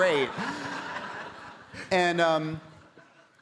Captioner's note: audience laughing